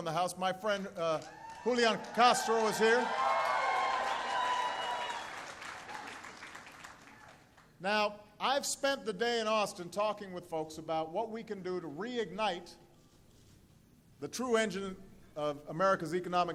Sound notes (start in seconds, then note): 3.1 applause